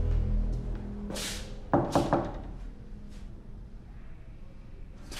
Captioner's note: golpes en la puerta